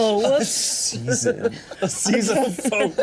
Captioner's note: laughs